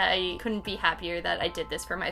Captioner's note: none